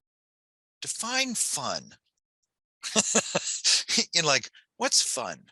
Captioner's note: laughs